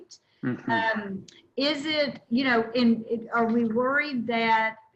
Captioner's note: laughing